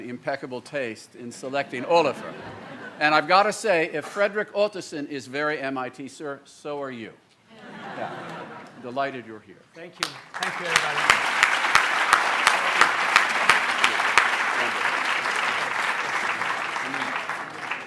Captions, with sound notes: impeccable taste in selecting Olafur. And I've got to say, if Frederick Ottesen is very MIT, so are you. Yeah. Delighted you're here. Thank you. Thank you, everybody. [APPLAUSE] Thank you.